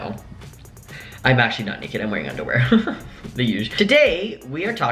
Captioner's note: laughs